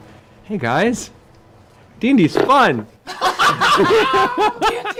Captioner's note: laughter